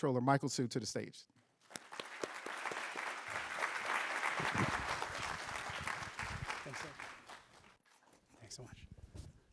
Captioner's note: applause